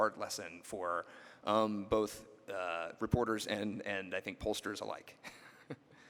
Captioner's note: laughs